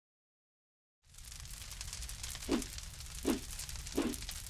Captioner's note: fire crackling